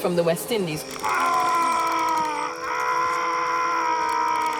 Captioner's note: man screaming